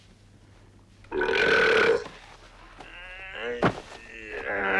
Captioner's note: Torente belches; Torente groaning